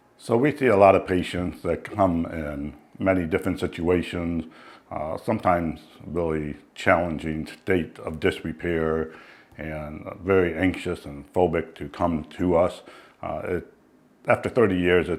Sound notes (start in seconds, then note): none